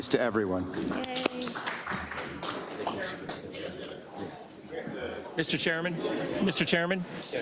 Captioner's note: applause